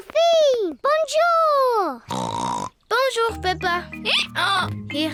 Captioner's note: snorts